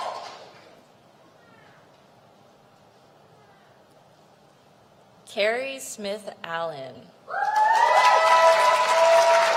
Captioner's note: applause